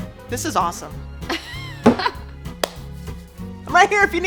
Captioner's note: laughing